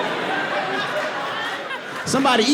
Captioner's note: audience laughs